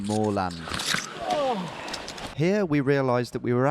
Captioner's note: grunting